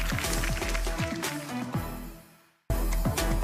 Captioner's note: applause